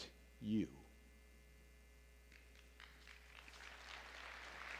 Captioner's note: applause